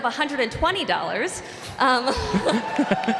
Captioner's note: applause